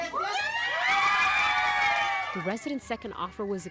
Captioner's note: cheering